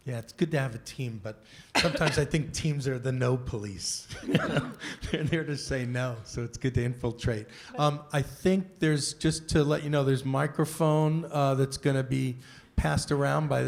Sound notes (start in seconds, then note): 4.2 laughs